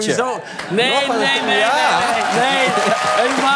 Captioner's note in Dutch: applaus